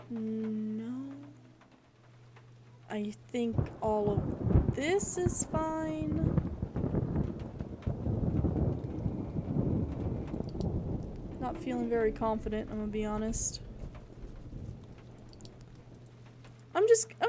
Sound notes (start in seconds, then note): 6.8 thunder Rumbling; 8.2 spooky Moaning